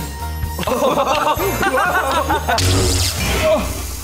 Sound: laughing

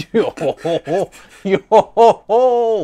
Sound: laughing

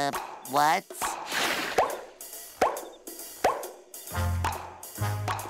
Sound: popping suckers

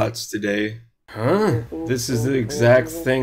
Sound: robot noises foreground

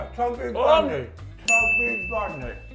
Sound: ding

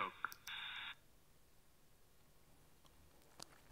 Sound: recording stops

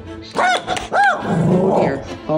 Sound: woof woof; growl

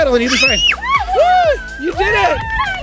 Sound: screams

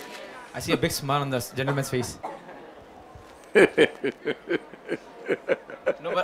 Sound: Sadhguru laughs

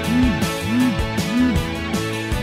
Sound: phone beeps

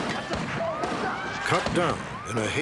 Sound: gunshots

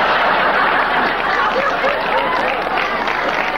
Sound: audience laughing

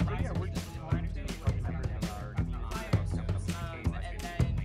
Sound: volunteers murmuring

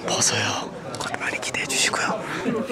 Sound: whispering

